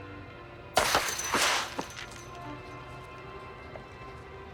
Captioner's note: fence clinks